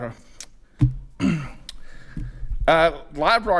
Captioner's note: clears throat